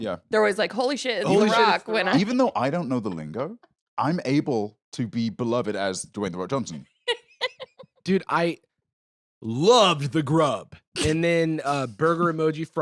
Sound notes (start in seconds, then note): 7.0 laughs